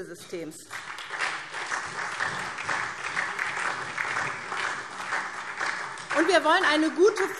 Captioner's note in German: Beifall SPD und vereinzelt DIE LINKE